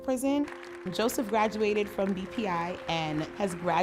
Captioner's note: applause